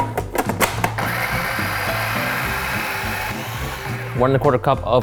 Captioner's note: machine churning